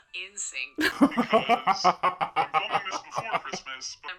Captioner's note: laughs